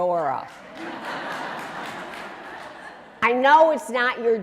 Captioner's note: audience clapping and laughing